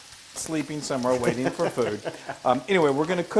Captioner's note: laugh